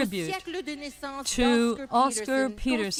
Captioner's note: speaking French